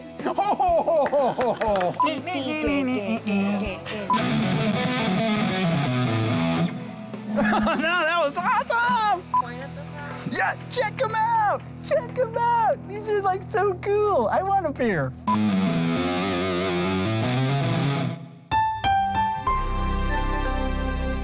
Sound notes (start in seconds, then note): 0.1 laughing; 2.0 singing; 4.0 guitar playing; 4.0 monitor beeping; 7.3 laughing; 15.1 guitar playing; 15.5 monitor beeping; 18.6 soft music